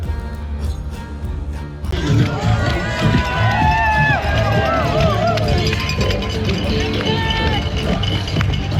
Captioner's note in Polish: Aplauz